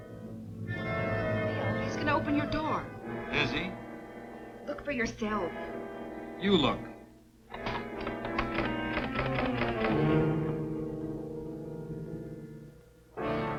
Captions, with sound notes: (dramatic music) - Bill, he's gonna open your door. - Is he? - Look for yourself. - You look. (metal clanking) (dramatic music)